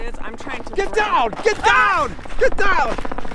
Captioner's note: helicopter roaring